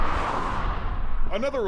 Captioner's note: traffic whirring